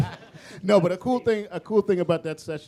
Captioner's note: laughter